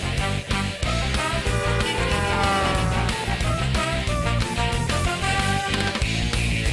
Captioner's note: honking